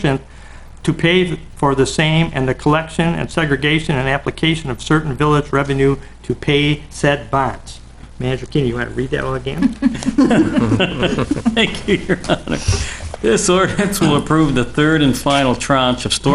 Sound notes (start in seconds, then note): 9.6 laughter; 12.0 laughing